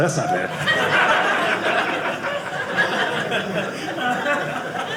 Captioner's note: audience laughing